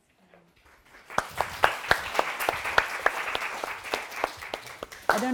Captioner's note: audience clapping